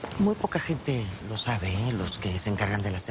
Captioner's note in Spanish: Baja la voz